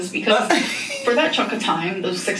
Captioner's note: laughs